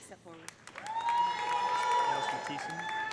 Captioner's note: audience applauding; audience cheering